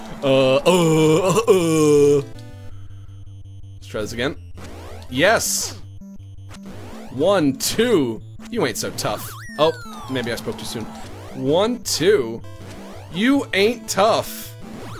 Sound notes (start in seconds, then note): 0.1 laughs; 0.2 doofy voice; 3.5 normal voice